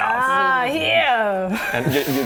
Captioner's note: wheezy laugh